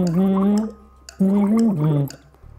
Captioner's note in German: Blubbern